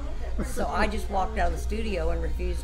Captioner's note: laughs